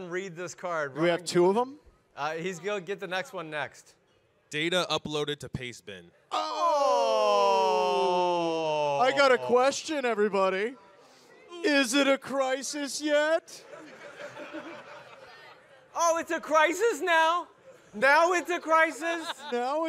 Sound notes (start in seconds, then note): 6.3 groan; 13.5 audience laugh